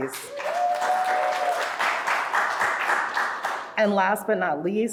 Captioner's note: audience applauding